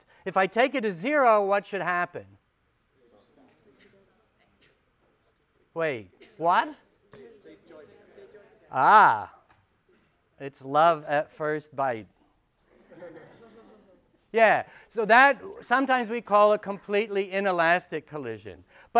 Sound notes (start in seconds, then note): 12.6 laughter